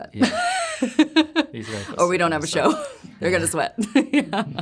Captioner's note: laughing